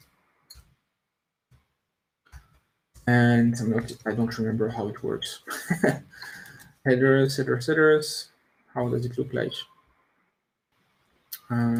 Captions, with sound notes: And I don't remember how it works. (laughs) et cetera, et cetera. How does it look like?